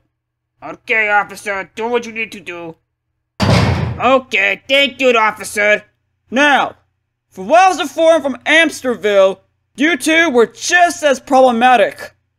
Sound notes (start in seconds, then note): 3.4 jail door closes